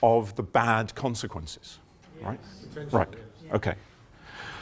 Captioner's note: general murmurs of agreement